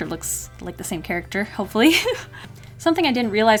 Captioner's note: laughs nervously